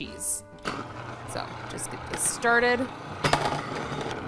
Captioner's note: processor whirring